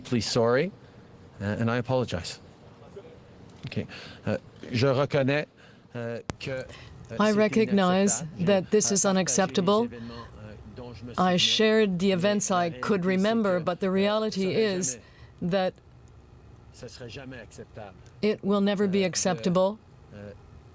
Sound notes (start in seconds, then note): 10.1 speaking French